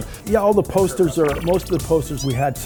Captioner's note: digital pulsing; kitten mewing